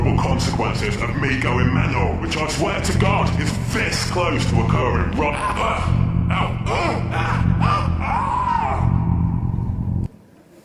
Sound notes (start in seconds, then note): 6.4 grunt; 6.6 scream; 7.6 grunt